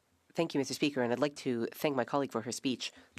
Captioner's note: speaking French